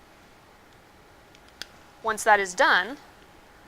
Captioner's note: plastic clicks